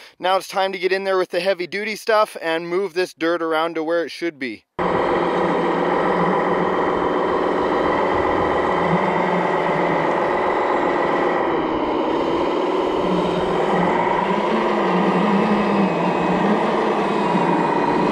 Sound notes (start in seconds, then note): 5.1 skid-steer engine revving